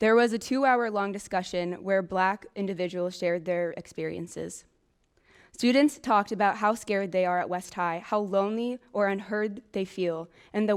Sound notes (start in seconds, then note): none